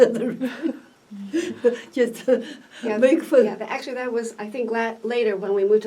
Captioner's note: laughs